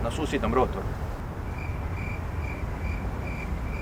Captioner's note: crickets chirping